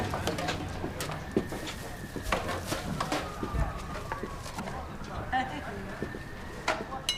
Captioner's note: siren wailing; officers murmuring